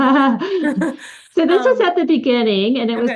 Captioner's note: laughter